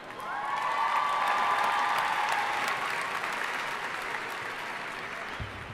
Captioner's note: audience cheering and applauding